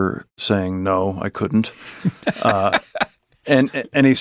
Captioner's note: both chuckling